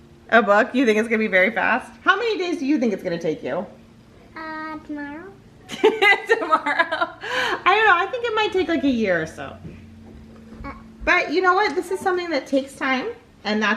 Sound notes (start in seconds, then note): 5.7 laughs